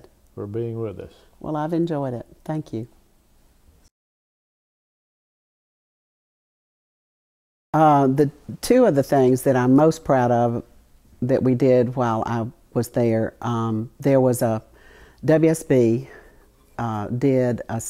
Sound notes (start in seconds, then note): 6.5 audio Break